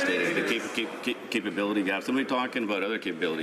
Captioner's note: some Applause